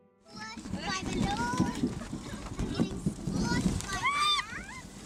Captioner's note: children chattering